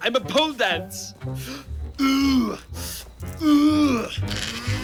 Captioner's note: grunts